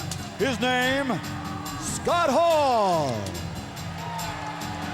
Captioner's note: crowd cheering; lively music continues